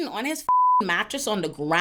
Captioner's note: beep